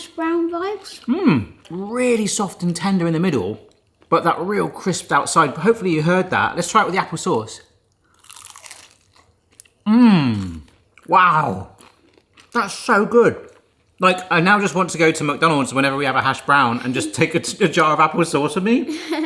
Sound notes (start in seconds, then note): 8.1 crunching sound